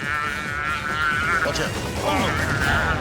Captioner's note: calf bellowing